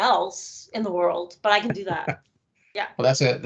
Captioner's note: laughing